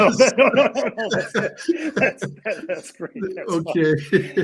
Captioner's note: laughing